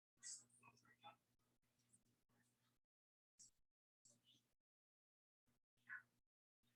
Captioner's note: people chattering indistinctly